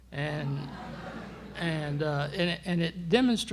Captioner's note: laughter